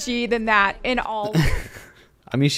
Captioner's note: chuckles